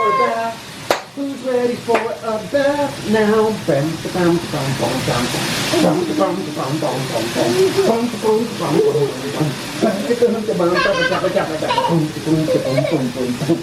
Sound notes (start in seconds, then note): 3.7 beat boxing; 10.5 laughing